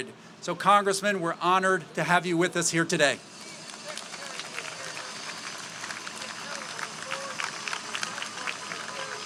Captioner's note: applause